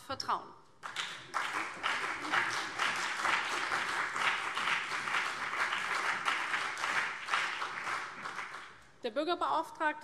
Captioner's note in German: Beifall CDU und BÜNDNIS 90/DIE GRÜNEN